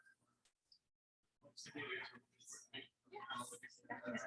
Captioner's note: people chattering indistinctly